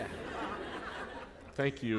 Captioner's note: laughter